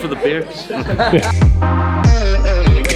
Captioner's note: laughter; electronic music